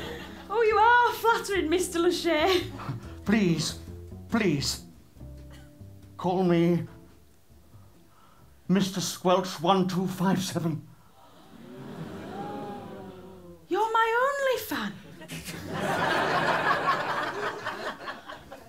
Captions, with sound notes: Oh, you are flattering, Mr L'Shay. Please, please, call me... ...MrSquelch1257. (GASPS) You're my OnlyFan?! (LAUGHTER)